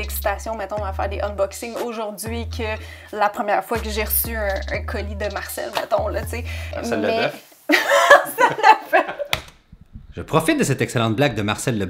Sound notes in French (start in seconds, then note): 8.1 en riant